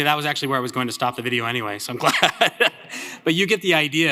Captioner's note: laughs